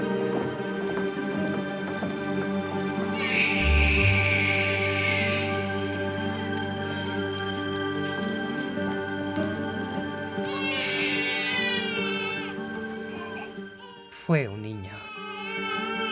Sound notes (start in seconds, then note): 3.1 baby crying; 10.4 baby shrieking